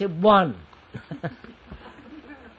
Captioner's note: laughs